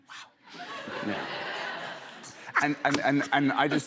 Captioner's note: laughter